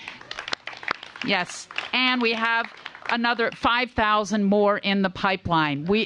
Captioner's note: applause